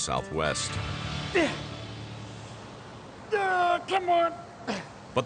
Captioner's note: grunts